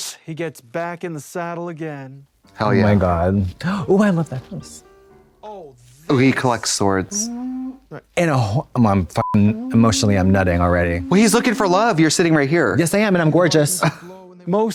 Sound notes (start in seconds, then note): 9.2 beep